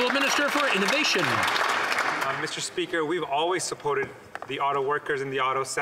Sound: some Applause

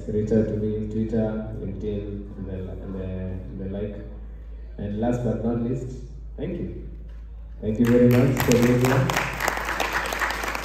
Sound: applause

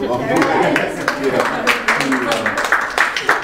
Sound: applause

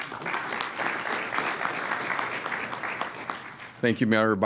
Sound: applause

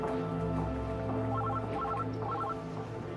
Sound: telephone ringing

